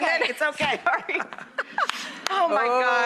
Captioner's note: laughing